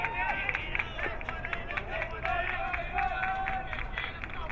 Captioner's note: crowd clapping